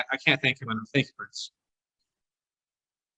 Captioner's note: audio distortion